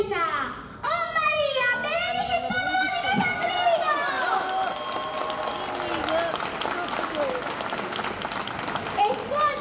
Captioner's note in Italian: Applauso